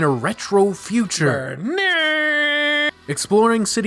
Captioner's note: Imitating the Tron Legacy opening theme song with my voice